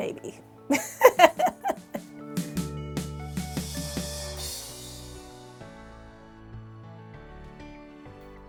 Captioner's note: laughter